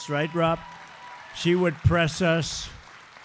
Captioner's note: applause